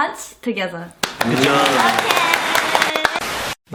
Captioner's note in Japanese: 拍手